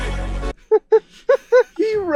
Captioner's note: laughter